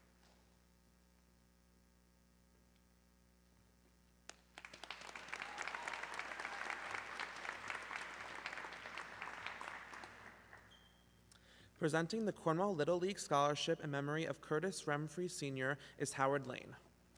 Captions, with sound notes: (audience clapping) - Presenting the Cornwall Little League scholarship in memory of Curtis Ramfrey Sr is Howard Lane.